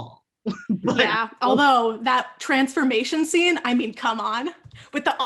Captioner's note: laughing